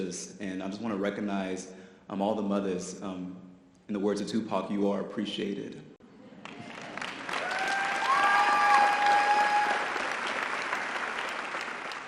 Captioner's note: audience applause